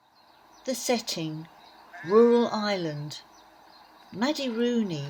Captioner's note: rural sounds in background - birdsong, sheep etc